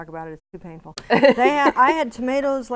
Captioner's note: laughing